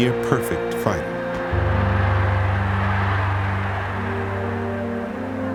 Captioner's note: crowd cheering